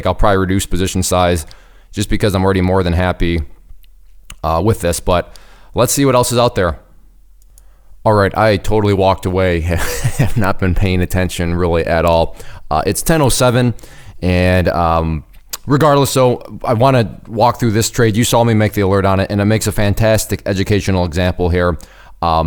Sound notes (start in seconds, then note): 9.7 laughs